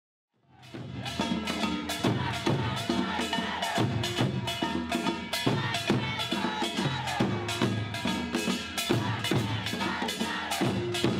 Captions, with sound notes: (drumming) - [Crowd] Black Trans lives matter. Black trans lives matter. Black trans lives matter.